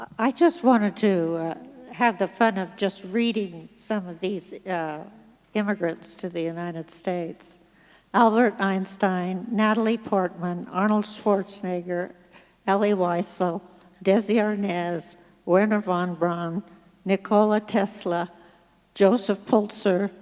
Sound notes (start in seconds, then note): none